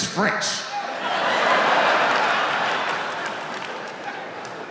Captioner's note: laughing